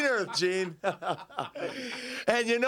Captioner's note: Curt and Flair laugh